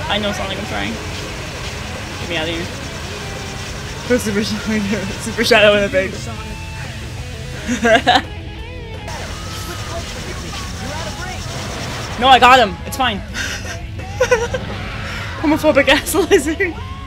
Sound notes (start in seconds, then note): 7.6 laughter; 14.0 Laughter, Biolizard roars